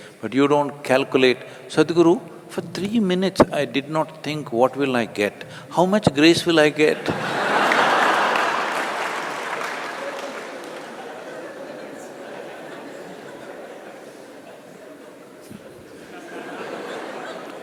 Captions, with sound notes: But you don’t calculate, “Sadhguru, for three minutes I did not think, ‘What will I get,’ how much grace will I get?” (Laughter/Applause).